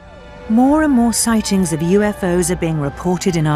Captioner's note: voiceover